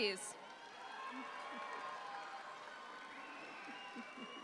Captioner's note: audience applauds